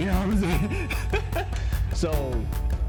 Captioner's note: laughs